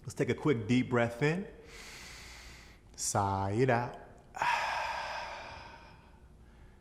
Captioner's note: inward breath; outward breath